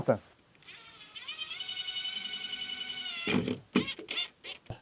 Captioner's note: drill whirring